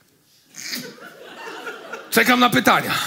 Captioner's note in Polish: śmiech